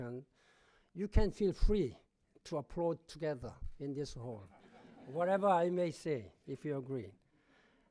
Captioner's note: laughter